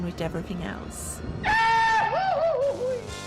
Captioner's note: goofy falling scream